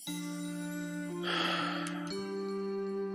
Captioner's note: sighs